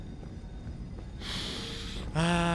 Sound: deep sniff

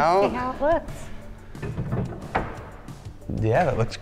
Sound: countertop clinking

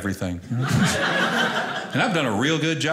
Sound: audience laughing

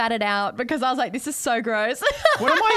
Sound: laughs

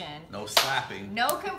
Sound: hand claps

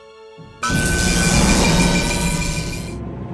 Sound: electric buzzing

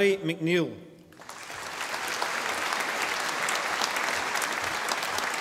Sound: audience applauding

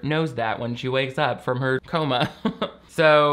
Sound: laughs

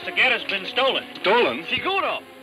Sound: speaking in Spanish

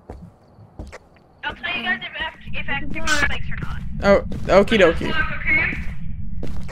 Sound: over Radio

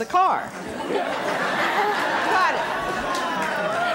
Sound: audience laughing

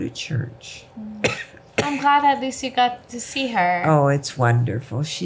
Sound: cough

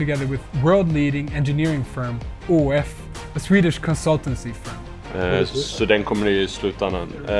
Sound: talking Swedish

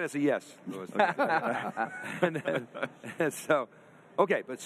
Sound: all laughing

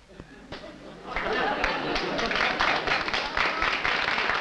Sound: applause

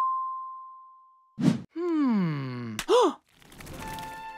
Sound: gasping

